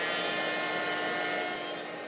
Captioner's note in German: Bohrgeräusche